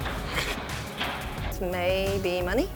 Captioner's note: sniggers